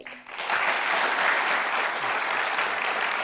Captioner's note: clapping